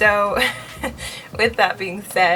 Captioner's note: laughs